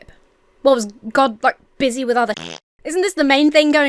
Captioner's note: farts